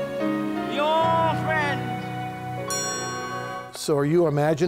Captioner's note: bells ringing